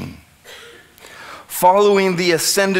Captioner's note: a member of the audience coughs